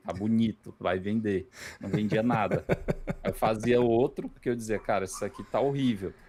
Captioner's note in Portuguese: risadas